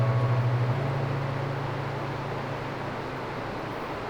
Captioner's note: water rushing